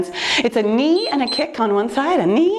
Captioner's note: timer beeps